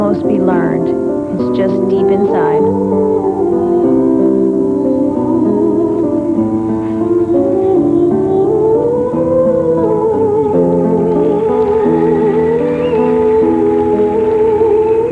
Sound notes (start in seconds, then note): 10.9 audience cheering and applauding